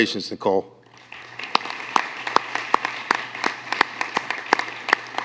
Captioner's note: applause